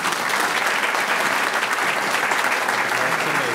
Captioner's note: audience clapping